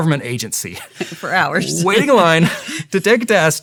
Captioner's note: laughing